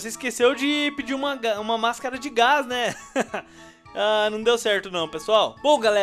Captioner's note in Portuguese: Risos